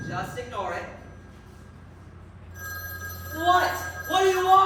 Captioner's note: phone rings